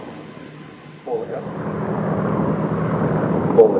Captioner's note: aircraft sounds